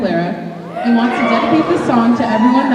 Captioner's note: cheering